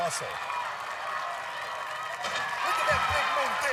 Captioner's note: cheering